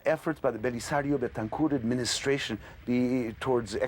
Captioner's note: speaking in non-English